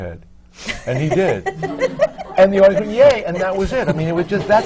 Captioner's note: laughs